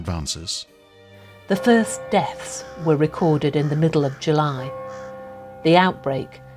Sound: bell tolls

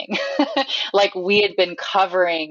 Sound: laughs

